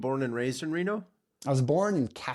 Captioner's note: blank Audio